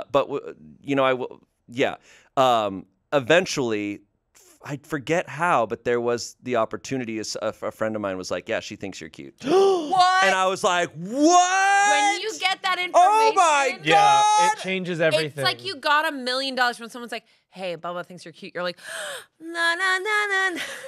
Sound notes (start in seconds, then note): 9.4 gasps; 19.3 gasps and vocalizes